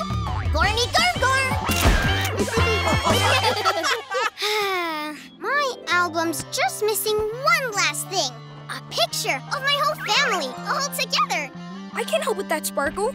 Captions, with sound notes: Gormy Gorm Gorm! [laughing] [sighing] My album's just missing one last thing. A picture of my whole family all together! I can help with that, Sparkle.